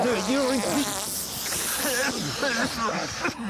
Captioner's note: everyone coughs